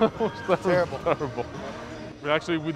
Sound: chuckles

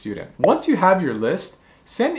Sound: bubble popping

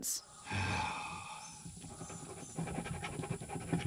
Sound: sighs

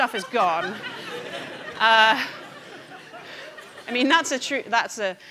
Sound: audience laughing

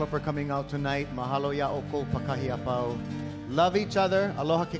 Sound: speaking in Hawaiian

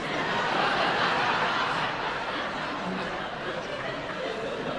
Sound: audience laughing

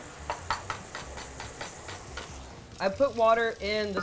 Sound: eggs thump

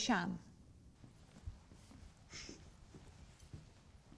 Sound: footsteps

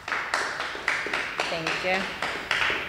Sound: applause

